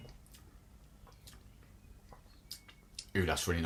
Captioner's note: smacks lips